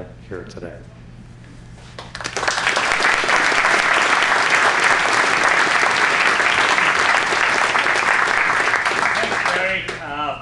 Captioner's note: applause